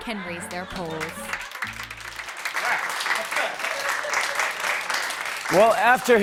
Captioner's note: laughter and applause